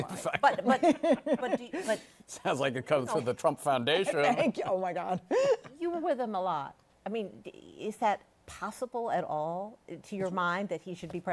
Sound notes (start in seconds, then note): 5.3 laughs